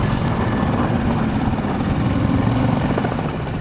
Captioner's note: motor revving